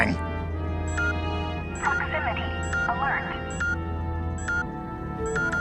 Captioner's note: beeping